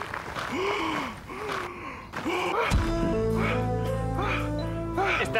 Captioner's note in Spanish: Respirando agitado